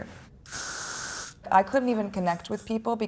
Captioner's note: hairspray spraying